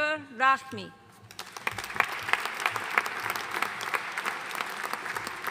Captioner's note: audience applauding